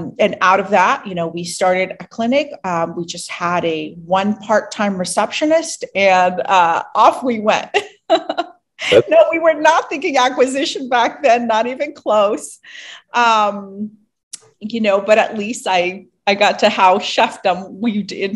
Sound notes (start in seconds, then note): 8.8 laughs